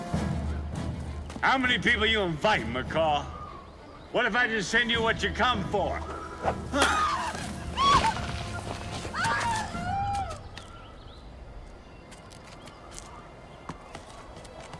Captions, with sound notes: How many people you invite, McCall? What if I just send you what you come for? (woman screaming) (suspenseful music)